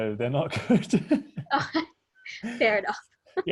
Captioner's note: laughing